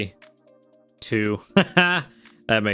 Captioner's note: laughs